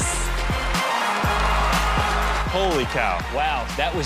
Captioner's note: cheers and applause